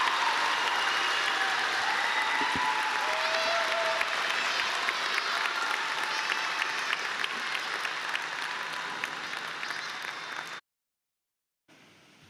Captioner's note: cheering and applause